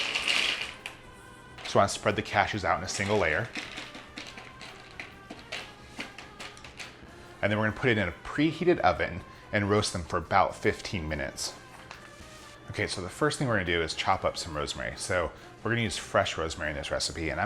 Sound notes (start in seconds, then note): 4.3 patting